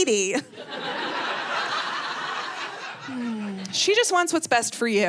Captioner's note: audience laughing